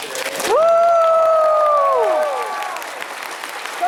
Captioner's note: cheers